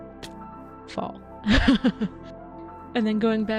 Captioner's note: laughing